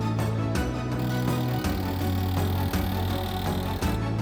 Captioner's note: super fast hammer sounds